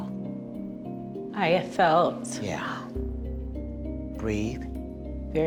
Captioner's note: voice breaking